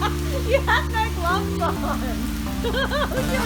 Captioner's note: laughter